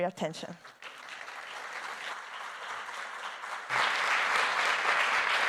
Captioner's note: audience applauding